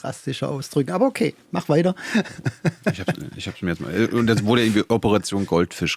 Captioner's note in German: gelächter